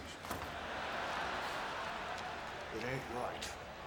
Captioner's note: audience cheers